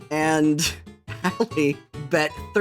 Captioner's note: laughing